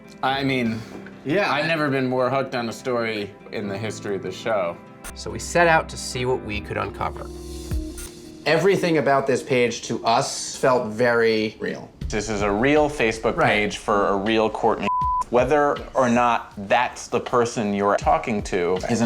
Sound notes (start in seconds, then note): 14.8 beep